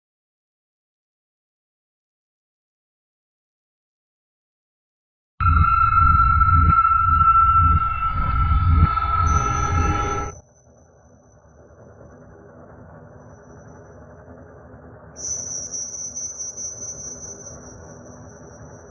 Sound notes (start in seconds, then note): 1.7 silence conts; 5.4 high pitched music